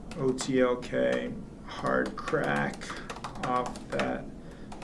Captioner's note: typing